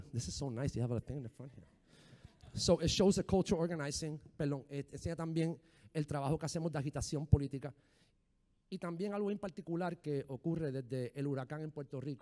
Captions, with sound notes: This is so nice they have a thing in the front here. So it shows the culture organizing. (speaking in foreign language)